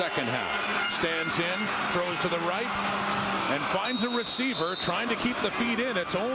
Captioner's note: crowd Noise